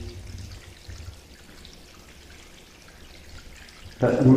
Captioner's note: water dripping